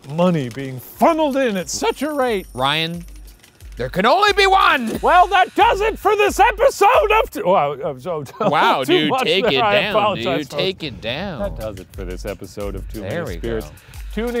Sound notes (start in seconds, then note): 8.0 laughing